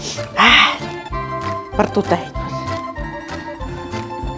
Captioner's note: laughing